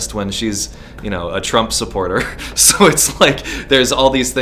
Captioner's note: laughs